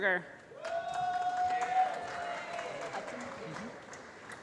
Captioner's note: applause